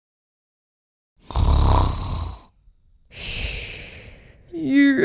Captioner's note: snoring